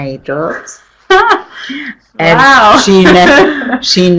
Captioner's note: laughs